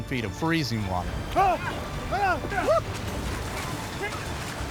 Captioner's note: yelling